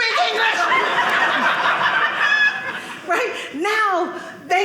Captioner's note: audience laughing